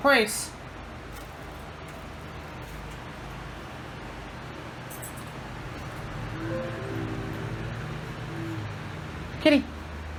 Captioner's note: computer sound